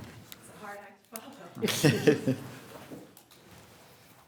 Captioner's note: people laughing